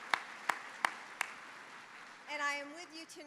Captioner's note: applause